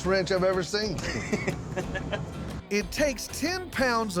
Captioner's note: chuckles